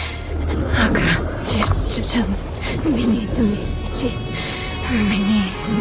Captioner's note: chanting frantically